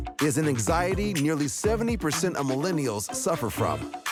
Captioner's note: none